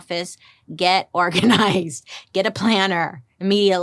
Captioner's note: laughs